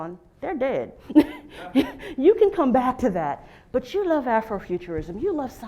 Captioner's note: laugh